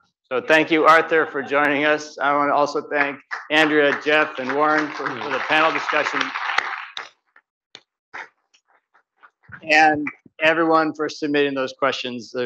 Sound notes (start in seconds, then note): 6.1 audience clapping